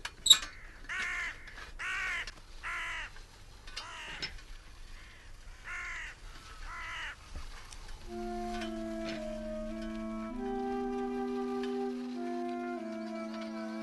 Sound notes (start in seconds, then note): 0.6 crow singing; 6.4 crow singing